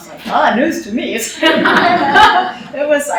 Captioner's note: laughter